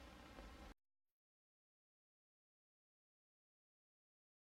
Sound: silence

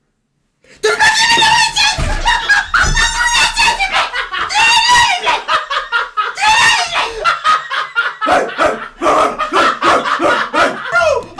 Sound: moment of silence; screaming

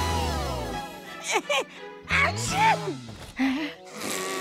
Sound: sneezing

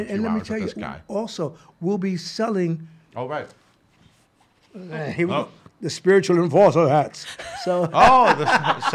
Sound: laughs

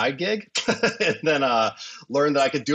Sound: chuckles

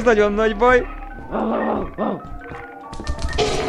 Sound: Skinwalker barks

